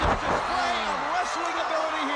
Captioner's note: crowd cheering